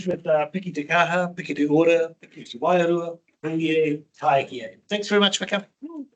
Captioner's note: speaking in te reo Māori